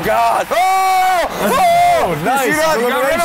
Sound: screams

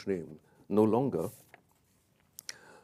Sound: speaks in a foreign language

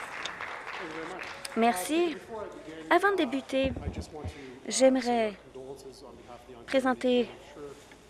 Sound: applause

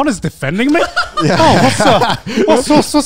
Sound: laughs

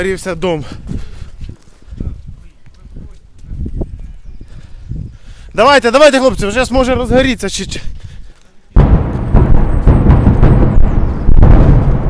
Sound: explosions are heard

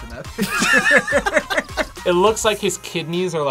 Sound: both laugh

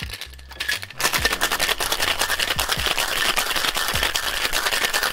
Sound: ice cubes rattling

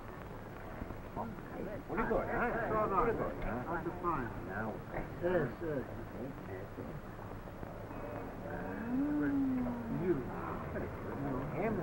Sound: men crowded around shop window, talking, smiling, oohing and aahing

